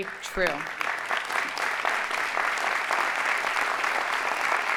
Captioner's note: audience applauding